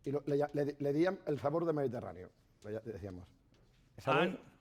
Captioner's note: speaking spanish